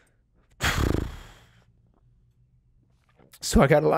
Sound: blowing lips

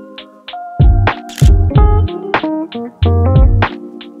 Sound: camera shutter clicks

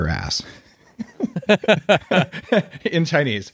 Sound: laughing

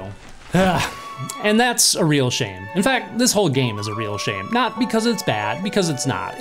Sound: sigh

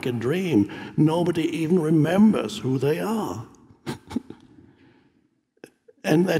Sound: laughs

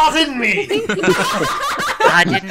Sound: laughter

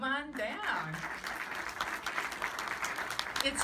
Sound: applause

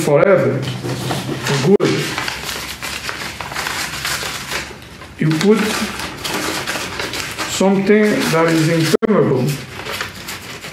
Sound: paper being rubbed

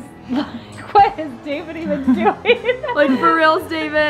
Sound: laughs

